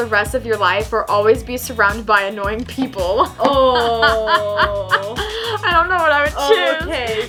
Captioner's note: laughs